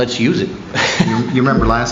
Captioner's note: laughter